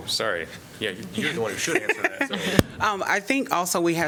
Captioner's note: laughter